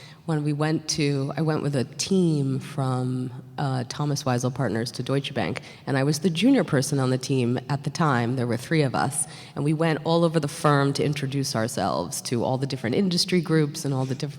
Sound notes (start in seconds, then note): none